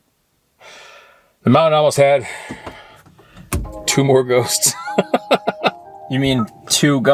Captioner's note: laughing